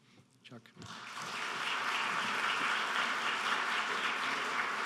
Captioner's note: applause